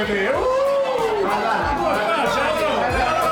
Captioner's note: everybody angrily protests